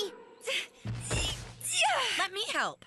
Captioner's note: Courtney Grunting